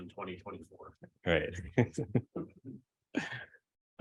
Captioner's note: chuckles